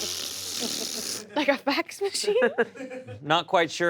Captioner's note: laughter